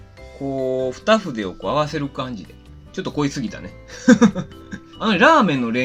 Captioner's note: laughs